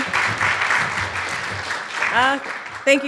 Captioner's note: applause